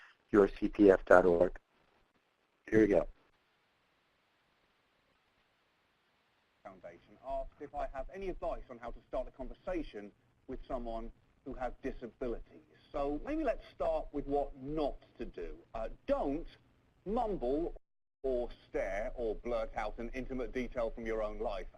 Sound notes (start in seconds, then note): 8.1 voiceover